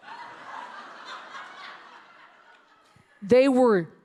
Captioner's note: audience laughing